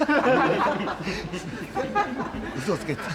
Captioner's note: laughter